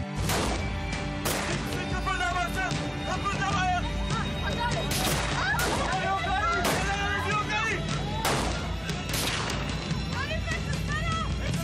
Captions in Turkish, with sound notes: [Kurşun sesi.] Kimse kıpırdamasın! Kıpırdamayın! [Kurşun sesleri.] [Kurşun sesleri.] Zarife, kızları al!